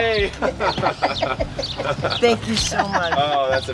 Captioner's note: laughing